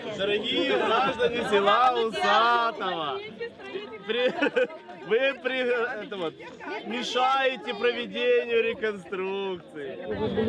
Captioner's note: laughs